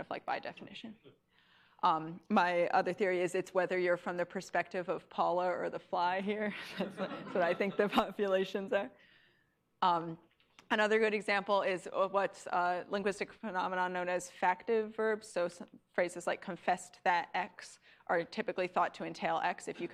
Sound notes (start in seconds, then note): 6.5 laughs